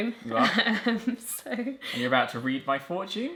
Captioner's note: laughing